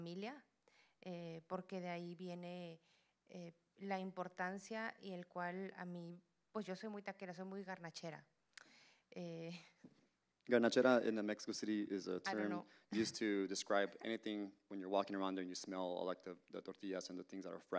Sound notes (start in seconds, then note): 0.0 Spanish language